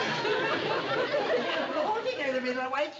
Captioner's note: with a mocking voice